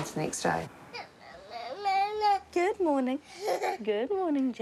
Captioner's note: baby babbles